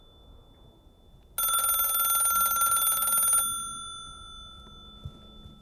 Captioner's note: phone ringing continues